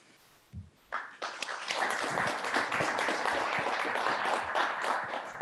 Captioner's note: applause